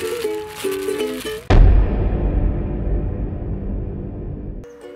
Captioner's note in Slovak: bummmmmm